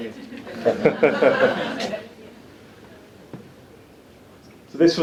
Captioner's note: audience laughs